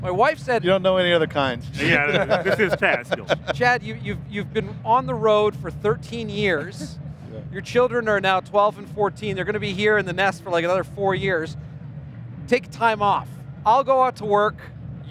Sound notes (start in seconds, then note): 1.8 laughing